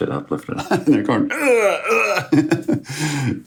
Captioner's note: grunting